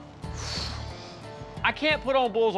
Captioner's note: sighs